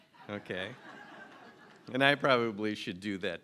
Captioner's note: laughter